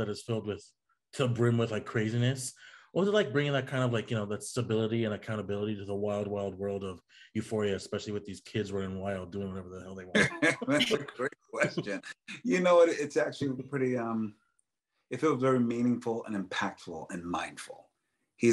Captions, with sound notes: is filled with the brim with like craziness. What was it like bringing that kind of like, you know, that stability and accountability to the wild wild world of "Euphoria", especially with these kids were in wild, doing whatever the hell they want? (Colman laughs) - That's a great question. You know what, it's actually pretty, it was very meaningful and impactful and mindful,